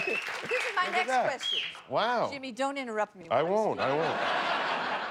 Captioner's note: applause